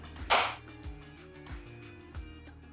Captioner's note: upbeat music; claps